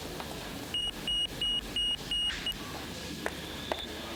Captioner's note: device beeping